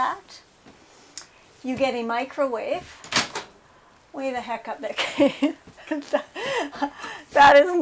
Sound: laughs

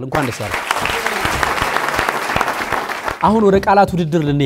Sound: applause

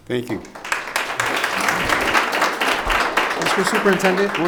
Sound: audience applause

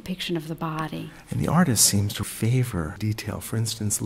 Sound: voiceover

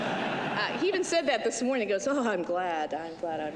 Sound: laughter

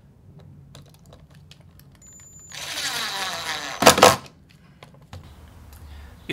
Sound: screwdriver noise

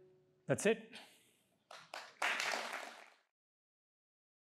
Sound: applause

